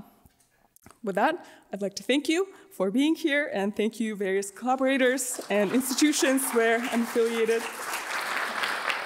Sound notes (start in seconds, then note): 5.2 applause